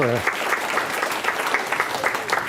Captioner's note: applause